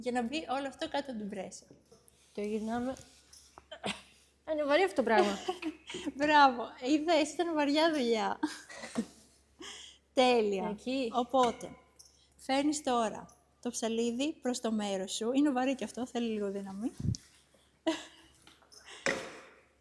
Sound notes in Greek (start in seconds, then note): 8.4 γέλια